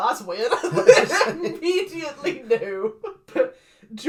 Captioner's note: laughs